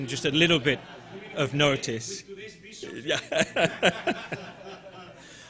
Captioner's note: laughing